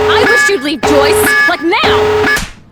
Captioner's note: emergency signal